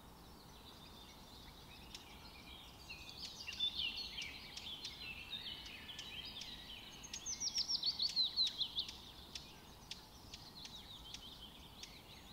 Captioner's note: bird sounds